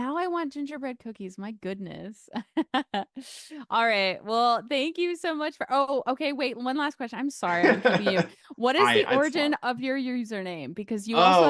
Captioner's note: laughter